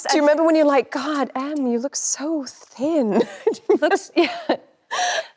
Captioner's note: laughs